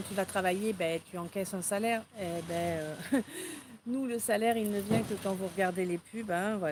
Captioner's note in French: rires